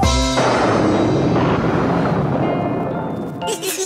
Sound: thunder crash; giggling

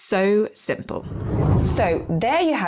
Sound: air whooshing

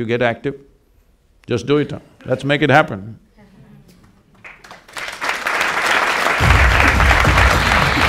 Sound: applause

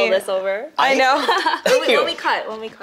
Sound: laughs

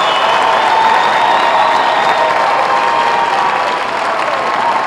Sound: applause

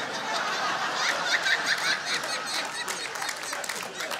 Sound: audience laughing

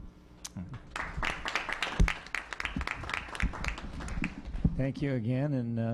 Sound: applause

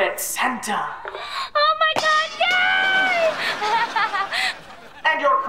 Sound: laughing

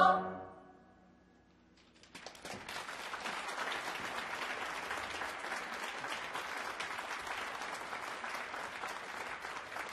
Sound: applause

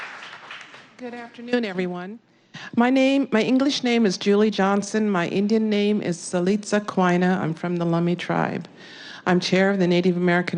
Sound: applaus

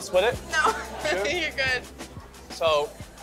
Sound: laughs

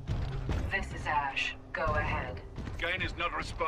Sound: radio

